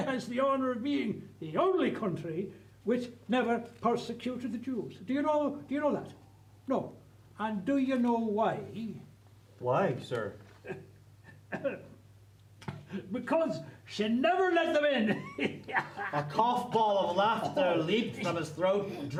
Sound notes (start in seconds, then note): 13.7 laughs